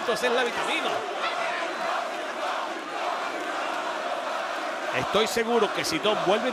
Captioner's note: applause